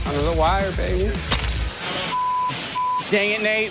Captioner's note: glass cracks